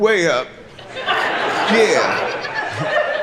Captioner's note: laughter